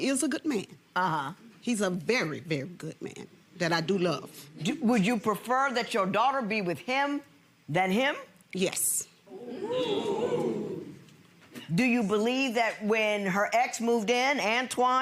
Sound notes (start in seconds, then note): 9.3 audience oohs